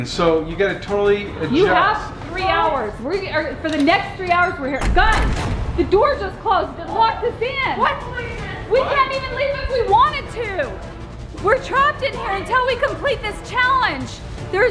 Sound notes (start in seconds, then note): 5.8 doors shutting